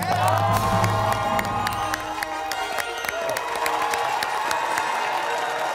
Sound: cheering

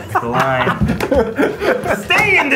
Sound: all laugh

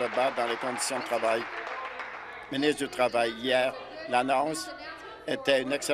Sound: applause

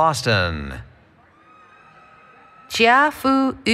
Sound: cheering

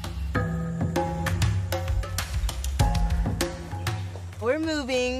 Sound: birds chirping

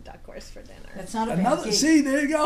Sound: voiceover

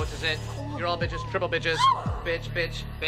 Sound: girls gasp

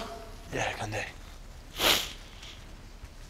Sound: sniffles

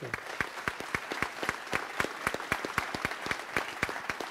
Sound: audience applauds

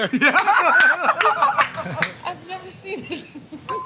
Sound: laughs; elevator bell dings

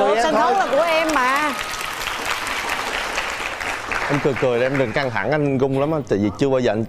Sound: clap

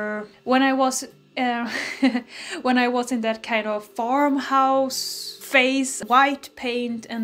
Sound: chuckles

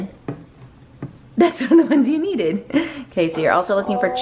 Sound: chuckling

